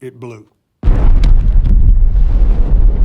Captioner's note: booming explosion